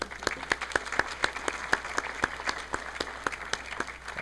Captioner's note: audience clapping